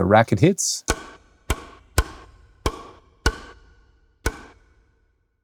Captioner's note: racket pounding